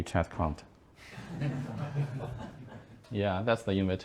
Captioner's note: laughing